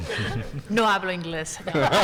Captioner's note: attendees laughing; speaking in Spanish; attendees laughing